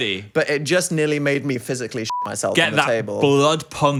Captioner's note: beep